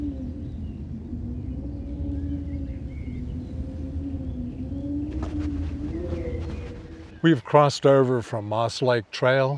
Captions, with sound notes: (birds chirping) We've crossed over from Moss Lake Trail